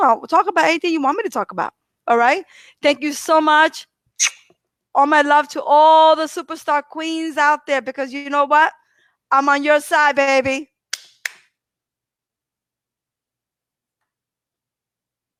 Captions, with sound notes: I'll talk about anything you want me to talk about. All right, thank you so much (lips smacking), all my love to all the superstar queens out there, because you know what, I'm on your side baby.